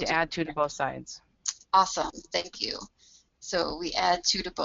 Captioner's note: voiceover